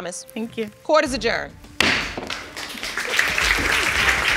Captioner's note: bangs gavel; audience applauding